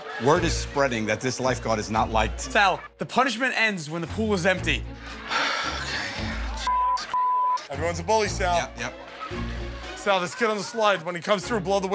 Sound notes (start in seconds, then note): 0.0 laughter; 5.1 sighs